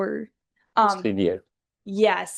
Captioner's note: host speaks faintly